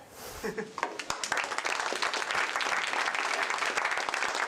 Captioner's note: applause